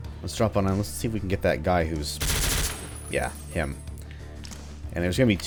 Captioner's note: MAC-10 fire